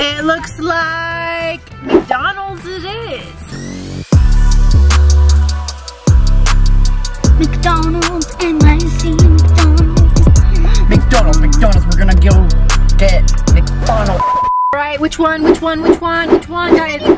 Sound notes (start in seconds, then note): 4.7 hiphop music instrumental; 14.2 beep